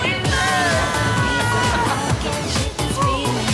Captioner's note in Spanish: Gritos